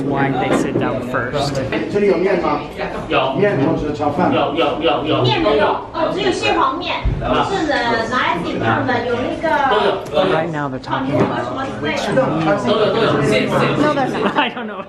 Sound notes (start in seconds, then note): 2.3 speaking foreign language